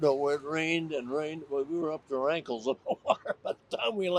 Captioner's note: chuckles